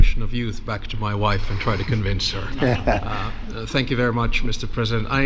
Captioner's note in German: lacht